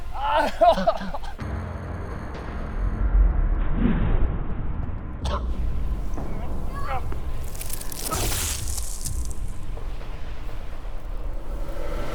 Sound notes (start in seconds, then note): 0.0 coughing; 0.1 groaning; 7.2 zapping